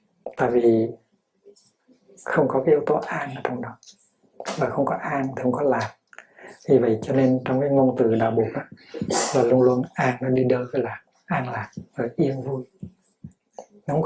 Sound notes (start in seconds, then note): 7.6 Vietnamese